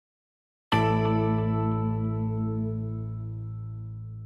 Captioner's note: bell clang